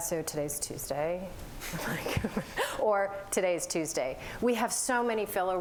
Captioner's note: laughter